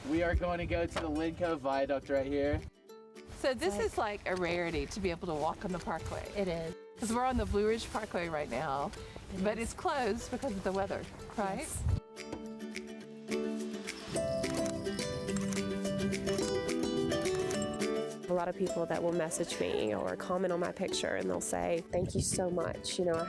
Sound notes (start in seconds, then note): 12.4 upbeat music; 14.1 camera clicking